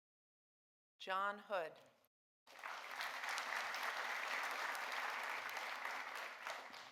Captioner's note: audience applauding